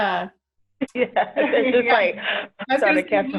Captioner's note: laughs